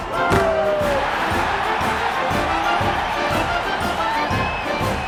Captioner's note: crowd cheering